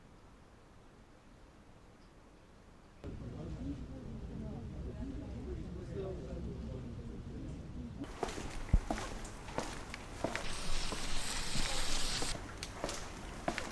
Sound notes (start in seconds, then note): 8.1 foot steps; 10.2 fingers scraping; 13.5 foot steps